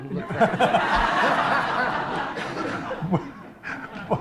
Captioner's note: laughter